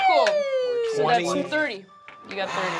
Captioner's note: cheering